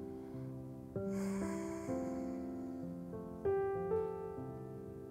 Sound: exhales

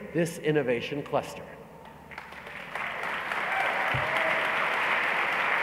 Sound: applause

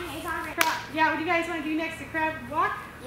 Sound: claps

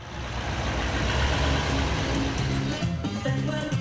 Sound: truck driving

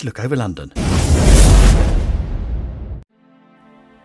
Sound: words whooshing; gentle music

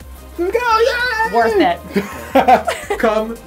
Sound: laughter

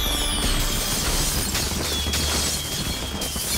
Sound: fireworks exploding and whistling

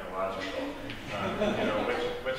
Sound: laughter from audience

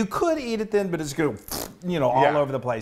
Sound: blows raspberry

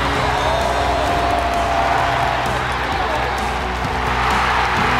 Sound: goal horn blasting, crowd cheering

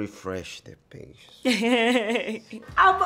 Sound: Letitia laughs

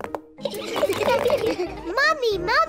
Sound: all laugh

